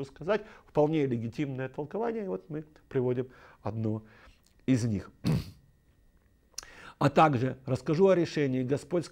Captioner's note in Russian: откашливается